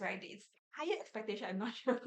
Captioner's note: laughs